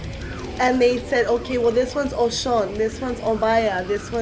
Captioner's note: speaking foreign language